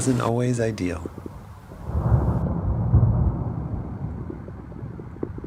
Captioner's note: thunder